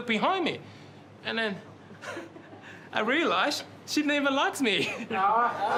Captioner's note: laughs